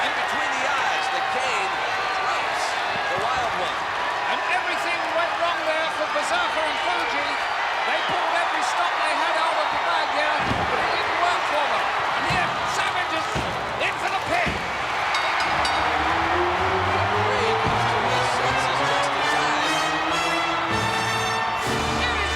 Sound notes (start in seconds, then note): 10.1 crowd cheering; 10.4 body thudding; 14.4 hands thudding; 15.0 bell ringing; 16.7 crowd cheering; 16.7 lively music